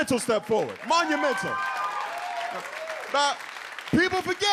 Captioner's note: audience cheers